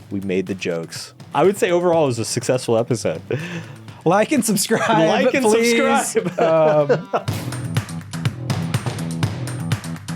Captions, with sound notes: we made the jokes. I would say overall it was a successful episode - Like and subscribe, please. - Like and subscribe. (laughs) (upbeat music)